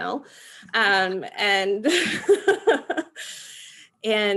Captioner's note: laughing